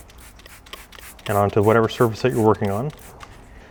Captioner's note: bottle spritzing